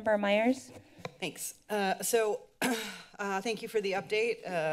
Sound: clears throat

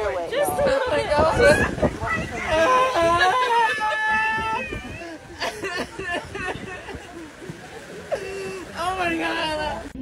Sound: screaming

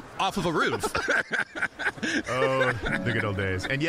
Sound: both laughing

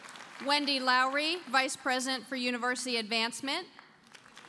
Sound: applause

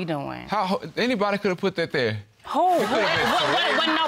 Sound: stammers; audience laughing

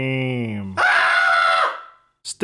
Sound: yells

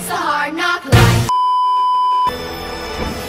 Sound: beeeeeep

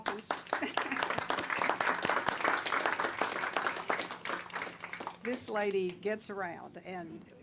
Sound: applause

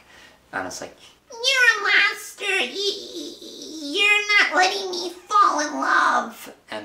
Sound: terribly annoying little sister voice

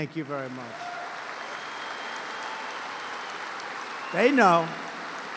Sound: applause

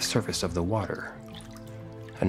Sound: water splashing

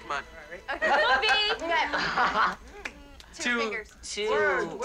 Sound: all laughing

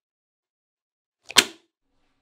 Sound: thud

